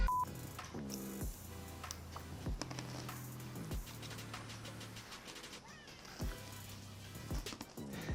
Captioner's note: crunch x5